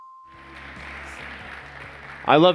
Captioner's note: applause